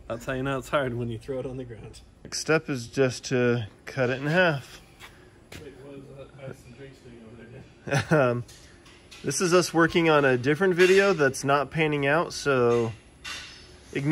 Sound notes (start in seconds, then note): 7.9 laughs